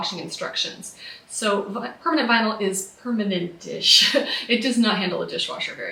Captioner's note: laughs